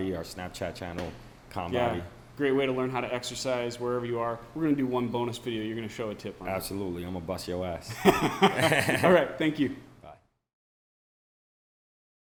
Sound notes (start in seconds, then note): 8.0 laughs